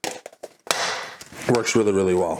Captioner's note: plastic thumps